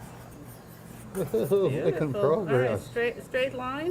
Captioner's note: laughing